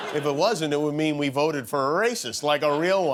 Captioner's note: laughter